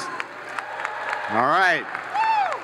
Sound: students cheering

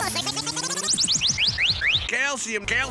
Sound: slowing down whistling

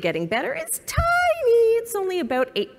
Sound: high-pitched voice

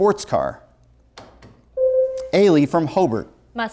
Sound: buzzer sounds

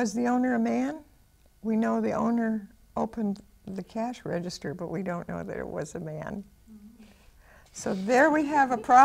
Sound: laughs

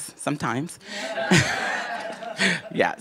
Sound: laughter

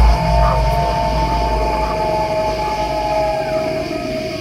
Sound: ominous music; wolf howling

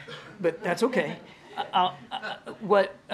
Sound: laughter

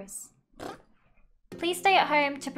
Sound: trills lips

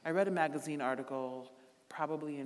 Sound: none

